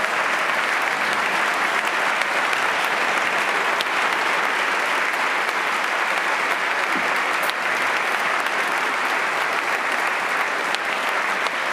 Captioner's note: applause